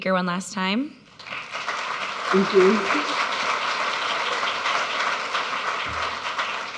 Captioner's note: audience clapping